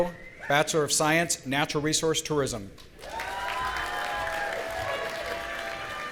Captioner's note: audience cheering